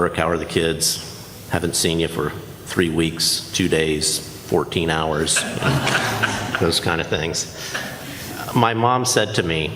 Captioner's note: laughter